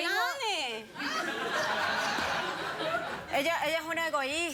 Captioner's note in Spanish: risas